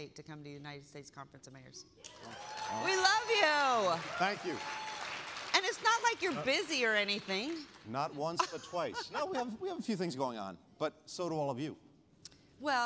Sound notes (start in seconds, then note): 2.1 applause; 8.3 laughter